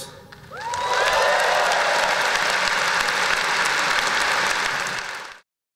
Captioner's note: applause